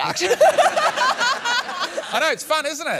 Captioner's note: laughter